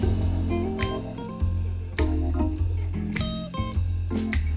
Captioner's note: distant laughter of children